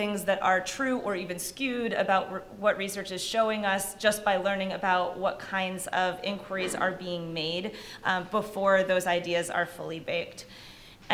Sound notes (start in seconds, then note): none